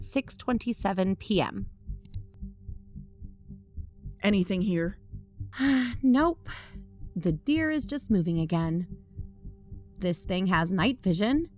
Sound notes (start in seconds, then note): 2.0 click; 5.6 sigh